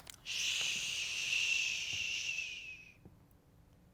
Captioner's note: shushing